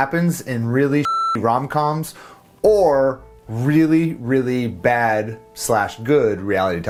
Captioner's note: beep